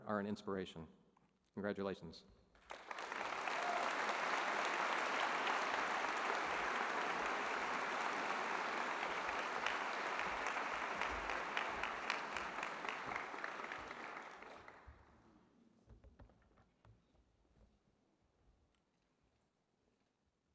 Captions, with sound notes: I am proud to have been associated with Danielle for the past several years. As her career continues, I look forward to the next wave of accomplishments. Her passion and dedication to things that matter are an inspiration! Congratulations! (Applause).